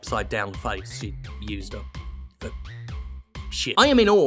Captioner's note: quietly